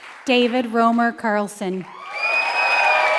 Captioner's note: applause